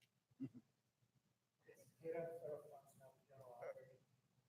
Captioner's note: speaking faintly